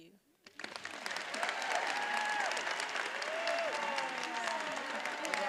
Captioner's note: attendees applauding and cheering